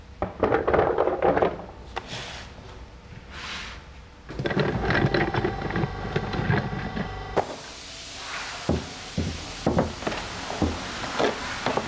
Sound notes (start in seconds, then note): 4.2 distant machine noises; 7.4 hissing